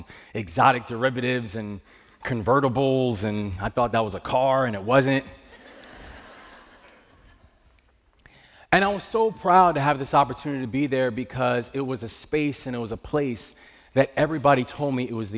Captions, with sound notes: AND EXOTIC DERIVATIVES AND CONVERTIBLES -- AND I THOUGHT THAT WAS A CAR AND IT WASN'T. [ LAUGHTER ] AND I WAS SO PROUD TO HAVE THIS OPPORTUNITY TO BE THERE BECAUSE IT WAS A SPACE AND IT WAS A PLACE THAT EVERYBODY TOLD ME